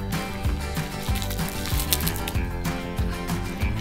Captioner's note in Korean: 쪼개는 소리